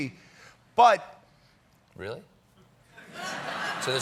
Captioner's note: laughter